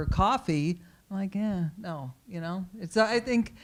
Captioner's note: groans